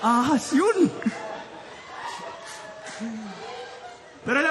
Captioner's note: laughter